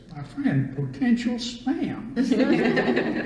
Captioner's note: laughter